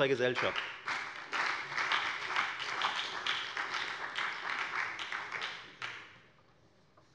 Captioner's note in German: Beifall bei der FDP und der SPD